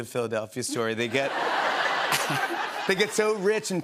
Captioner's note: laughter